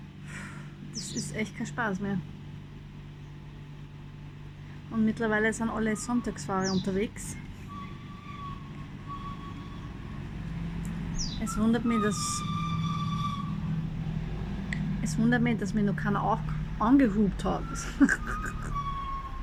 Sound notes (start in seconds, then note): 12.8 brakes squeal; 17.8 laughter